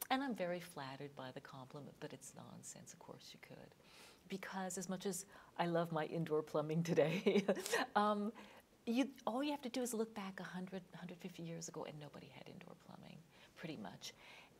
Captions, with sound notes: And I'm very flattered by the compliment, but it's nonsense. Of course you could. Because as much as I love my indoor plumbing today... (laughing) all you have to do is look back 100, 150 years ago, and nobody had indoor plumbing, pretty much.